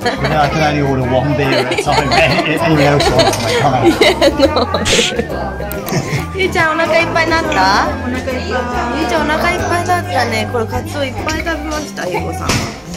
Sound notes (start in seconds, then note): 1.4 laughs